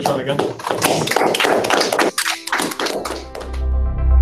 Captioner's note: applause